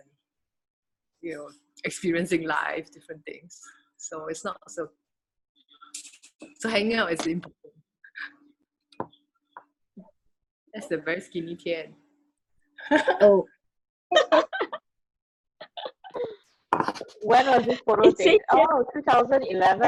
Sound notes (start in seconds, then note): 9.9 laughs